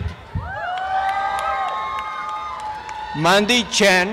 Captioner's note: applause and cheering